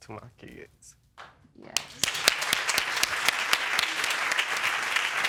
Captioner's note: audience applauding